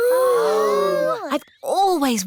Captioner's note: all gasp